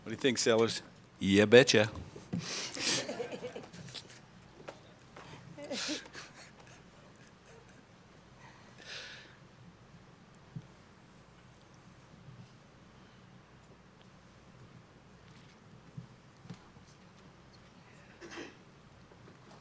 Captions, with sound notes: What do you think, Sellers? "Ya, betcha." [Laughter]